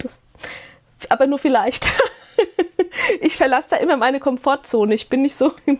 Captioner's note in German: gelächter